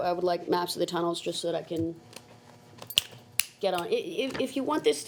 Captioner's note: snapping